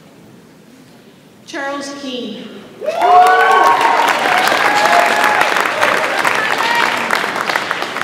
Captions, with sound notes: Charles King. (audience applauds and cheers)